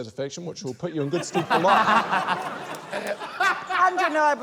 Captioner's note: laughter